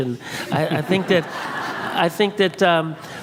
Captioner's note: and audience laughs